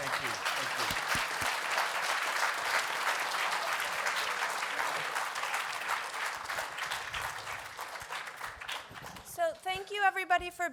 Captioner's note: applause